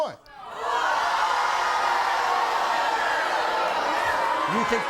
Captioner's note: crowd shouting